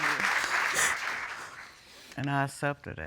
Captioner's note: sobbing